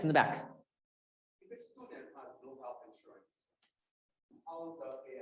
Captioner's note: voice muffling